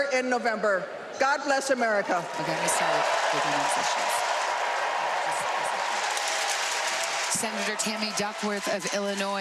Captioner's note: applause